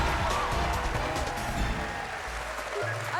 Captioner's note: cheers and applause